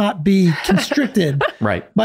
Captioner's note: laughing